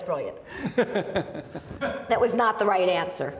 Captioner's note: laughing